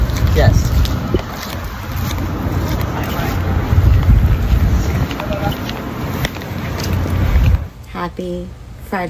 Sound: beach winds

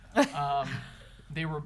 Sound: people chuckling

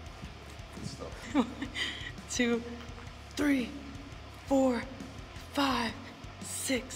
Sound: laugh

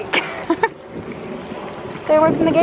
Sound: laughing

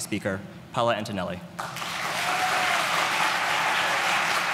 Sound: applause

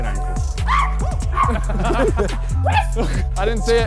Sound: player screams; laughs

